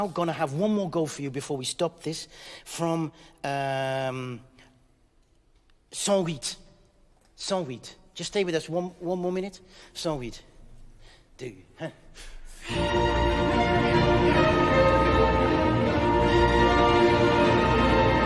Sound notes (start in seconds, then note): 5.9 speaking in French; 10.9 speaking in French; 12.6 high energy orchestral music